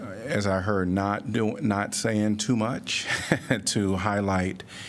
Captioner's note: laughter